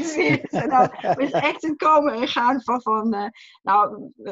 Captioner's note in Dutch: lacht